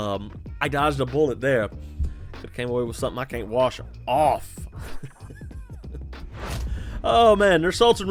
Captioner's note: laughs